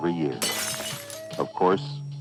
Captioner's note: window shattering